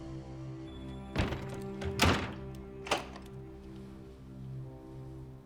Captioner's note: door latch clicks and thuds